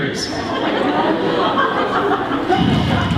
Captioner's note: laughter